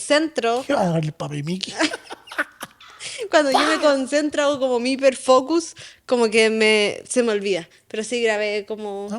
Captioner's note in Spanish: risas